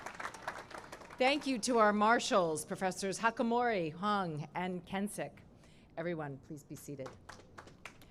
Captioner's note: cheering and applause